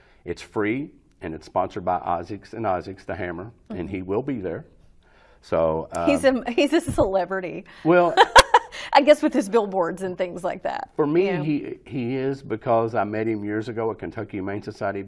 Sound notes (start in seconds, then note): 8.0 laughs